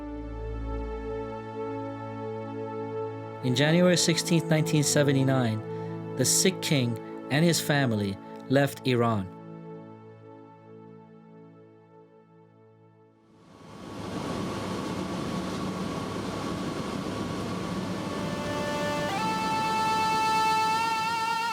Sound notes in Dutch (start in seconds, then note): 13.8 vliegtuigmotor draait; 17.8 rustige instrumentale muziek